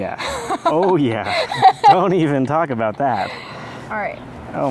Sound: laughs

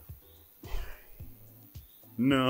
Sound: scoffs

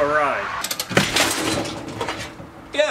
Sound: click ... BOOM!!

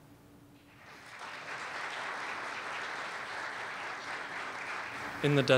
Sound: applause

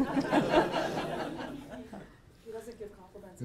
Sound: audience laughing

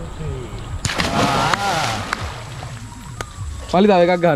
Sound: clapping

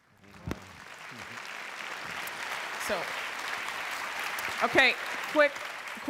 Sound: applause

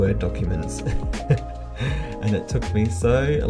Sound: chuckles

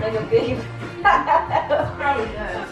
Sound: laughs

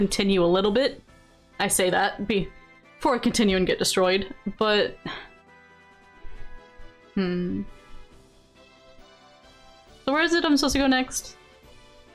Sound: sigh

